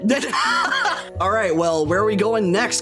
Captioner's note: laughing